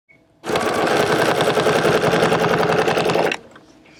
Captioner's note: machine whirring